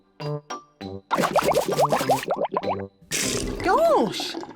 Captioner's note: bubbles